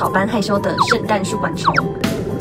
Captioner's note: poof